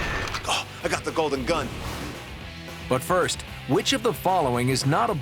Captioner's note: gunshot